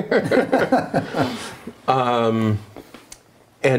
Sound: laughing

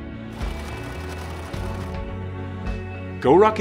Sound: whirring

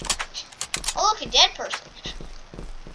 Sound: annoying breath

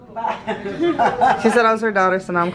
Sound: chuckles

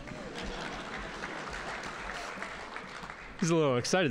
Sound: audience applauding

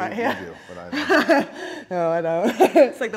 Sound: laugh

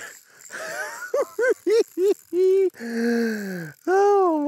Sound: giggles

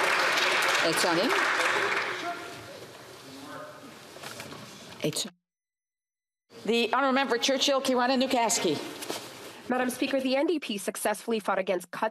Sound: some Applause

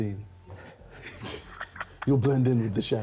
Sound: man laughs

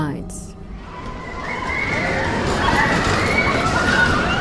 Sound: screaming

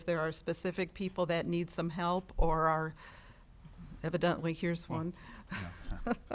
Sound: chuckles

